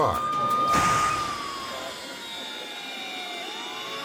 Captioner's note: cars bang